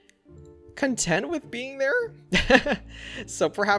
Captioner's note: laughs